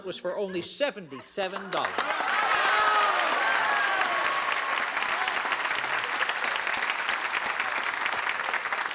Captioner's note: cheering and applause